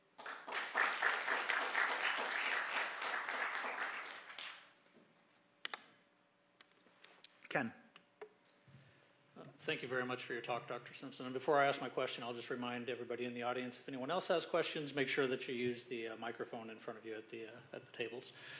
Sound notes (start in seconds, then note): 4.5 applause